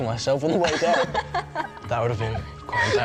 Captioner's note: laughing